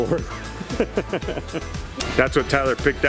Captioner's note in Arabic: يضحك